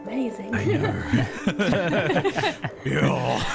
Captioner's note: awed laughter all around